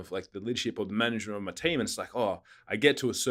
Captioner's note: exhaling